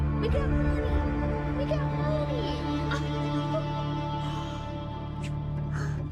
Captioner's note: chuckles